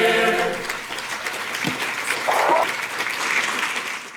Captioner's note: applause